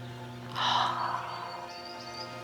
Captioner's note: gasps